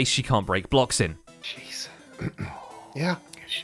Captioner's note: whispers; clears throat